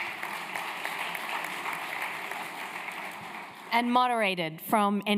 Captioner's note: applause